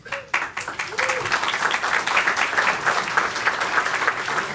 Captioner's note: applause